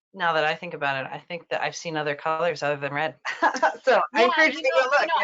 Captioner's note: laughs